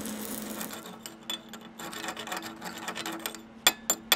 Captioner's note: metal grating